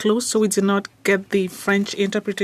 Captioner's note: speaking French